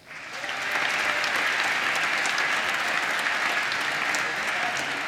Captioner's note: applause